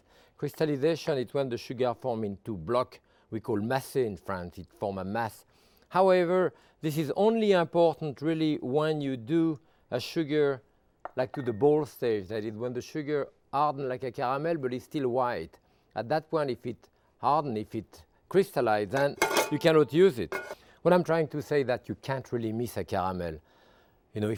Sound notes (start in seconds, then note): 3.4 speaking in foreign language; 18.9 pan clanging